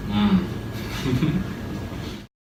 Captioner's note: giggle